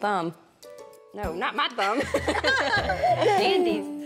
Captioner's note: laughing